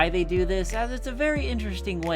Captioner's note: none